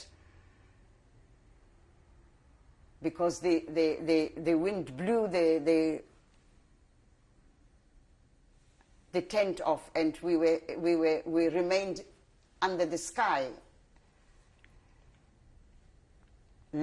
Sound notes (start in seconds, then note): 0.1 pauses for 3 seconds; 6.1 pauses for 3 seconds; 13.3 pauses for 3 seconds